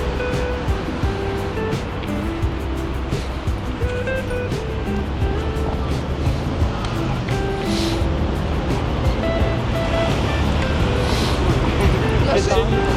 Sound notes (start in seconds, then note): 2.9 wind Blowing